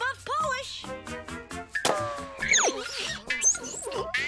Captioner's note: silly music; Milo zooming; Milo grunting; bike squeaking